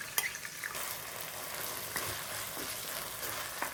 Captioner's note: sizzling